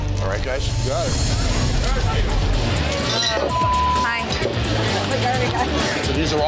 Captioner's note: crowd chatter